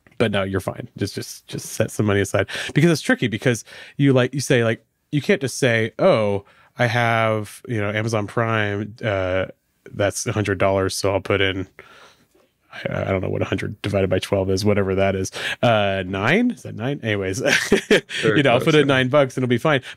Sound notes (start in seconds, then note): 17.7 laughs